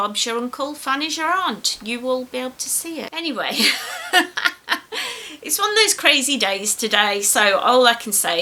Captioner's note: laughs